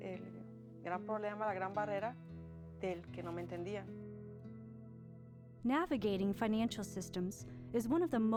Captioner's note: speaking world language